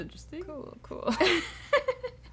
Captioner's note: laughter